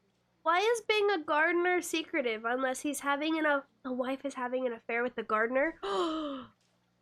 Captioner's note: gasp